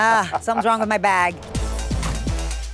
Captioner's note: laughs; upbeat music